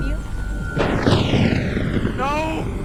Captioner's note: thunder crashing